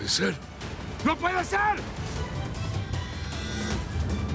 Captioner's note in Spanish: Gritando